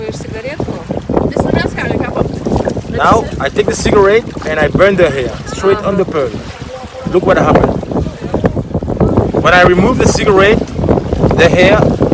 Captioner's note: english conversation